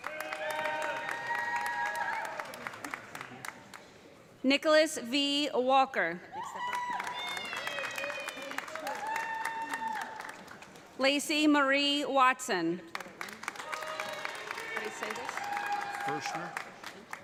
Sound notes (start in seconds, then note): 0.0 audience cheering; 0.0 audience applauding; 6.5 audience cheering; 6.6 audience applauding; 12.9 audience applauding; 13.6 audience cheering